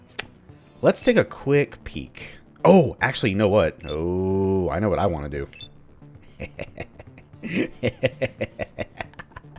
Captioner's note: evil chuckling